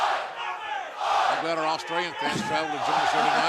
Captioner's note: fans chanting